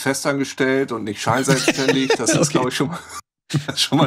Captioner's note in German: lachend